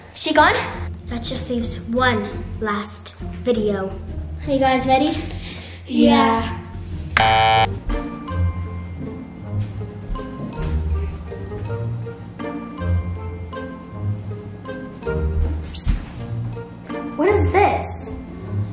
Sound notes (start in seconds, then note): 7.2 beeps buzzer